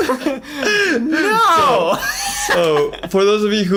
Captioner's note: laughs